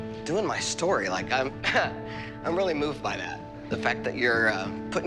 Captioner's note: short laugh